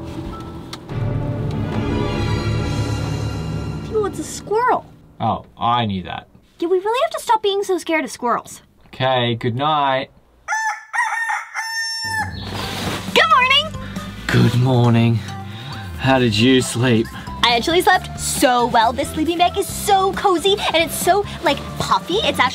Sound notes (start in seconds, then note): 0.1 suspenseful music; 10.4 rooster crows